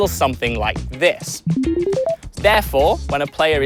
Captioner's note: beeping sounds